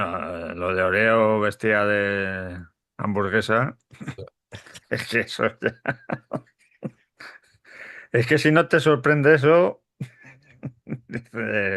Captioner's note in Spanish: risas